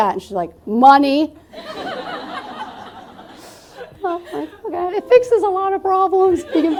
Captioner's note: laughter